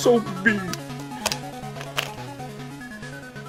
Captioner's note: crying